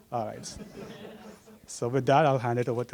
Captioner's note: laugh